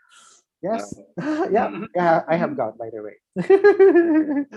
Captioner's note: laughs